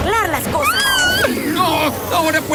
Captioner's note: scared squeak